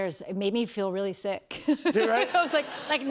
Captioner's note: laughter